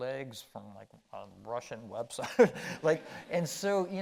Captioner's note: chuckling